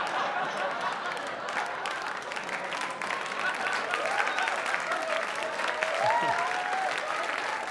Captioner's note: applause